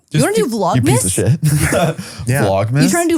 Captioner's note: laughs